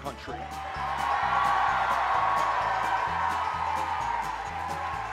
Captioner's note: cheers